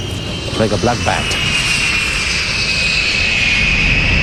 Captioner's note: airplane engines roaring